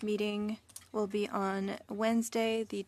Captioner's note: speaking French